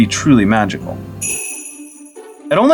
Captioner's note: sleigh bells